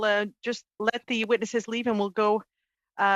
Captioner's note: speaking French